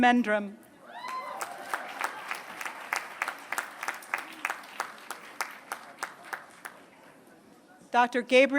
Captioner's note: applause